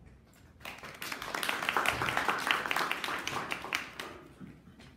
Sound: audience applauding

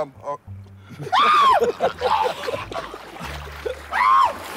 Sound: JJ screaming

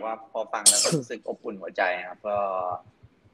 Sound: answering in Thai

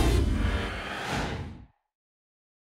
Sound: whoosh

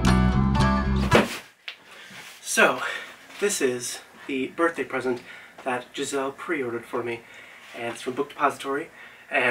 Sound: slam

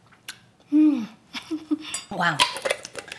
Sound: chuckles

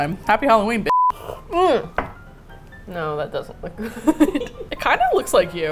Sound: sips; laughs

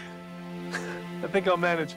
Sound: Thomas laughs

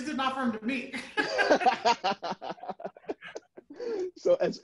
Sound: people laughing

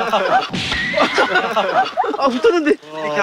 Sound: slamming down

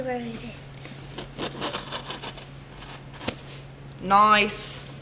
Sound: box ripping

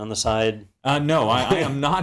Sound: laugh

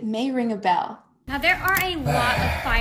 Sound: sighs

